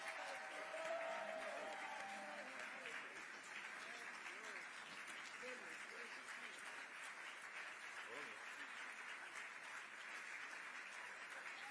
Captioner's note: cheers and applause